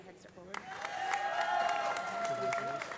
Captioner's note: audience applauding; audience cheering